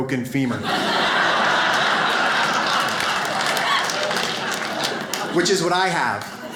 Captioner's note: audience laughs